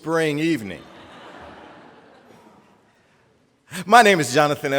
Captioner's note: audience laughing